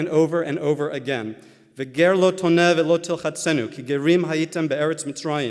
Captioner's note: Hebrew